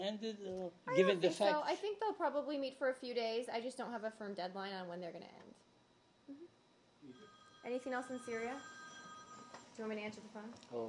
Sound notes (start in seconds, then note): 7.1 cell phone rings